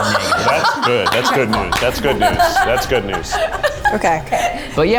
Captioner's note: laughs